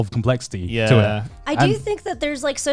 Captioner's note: group agreeing